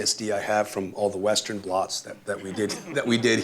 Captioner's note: laughter